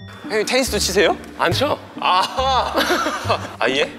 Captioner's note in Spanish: Ja ja ja